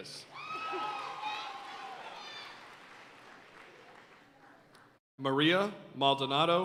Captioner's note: audience cheering and applauding